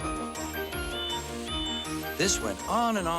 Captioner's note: toot toot